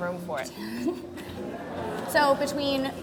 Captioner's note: giggles